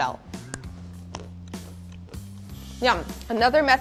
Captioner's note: crunches